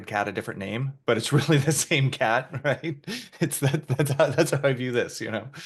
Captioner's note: laughing